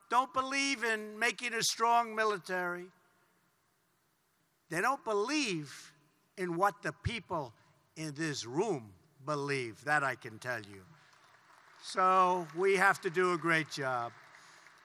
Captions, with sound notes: don't believe in making a strong military. They don't believe in what the people in this room believe -- that I can tell you. (Applause.) So, we have to do a great job.